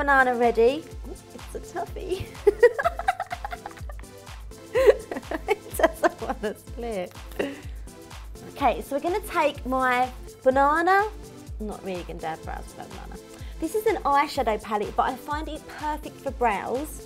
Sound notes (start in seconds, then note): 2.5 laughs